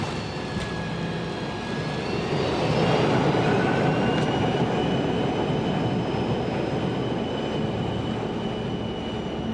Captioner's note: airplane turbine